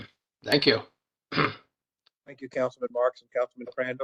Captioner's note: cough